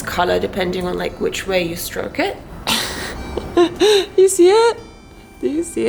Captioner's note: laughs